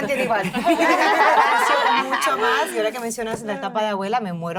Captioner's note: laugh